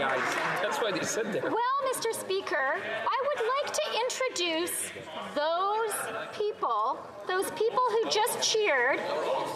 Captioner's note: some Applause